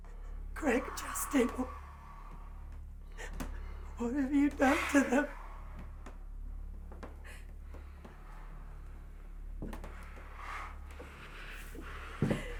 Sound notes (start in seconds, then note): 6.0 group gasping